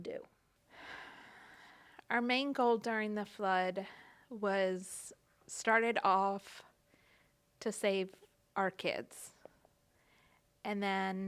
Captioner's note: sigh